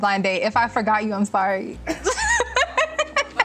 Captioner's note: laughs